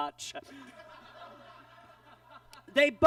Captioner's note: audience laughs